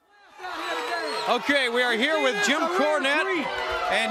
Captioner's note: crowd cheering